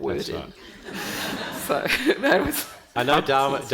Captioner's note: panel and audience laughing